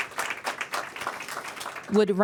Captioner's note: applause